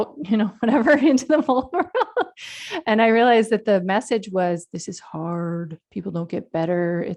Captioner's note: laughs